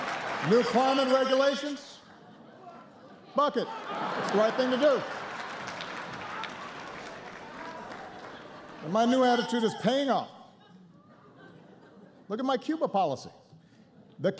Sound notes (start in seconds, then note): 5.1 laughter and applause